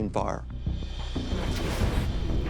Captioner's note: whoosh